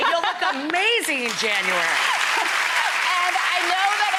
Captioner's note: applauding; laughing and applauding